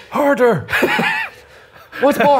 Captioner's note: chuckling